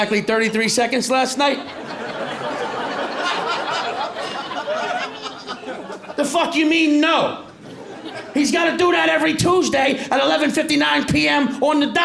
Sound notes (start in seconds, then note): 1.4 laughter